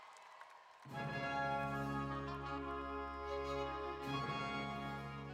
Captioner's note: applause